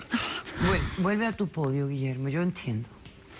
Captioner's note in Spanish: Sollozos